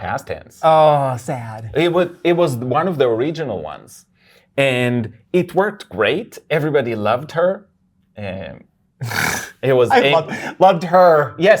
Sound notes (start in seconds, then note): 9.9 laughs